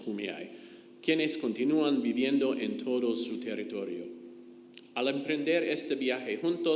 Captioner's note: speaks in foreign language